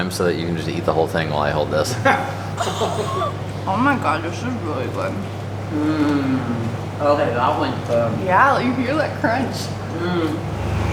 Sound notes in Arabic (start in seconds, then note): 1.8 ضحك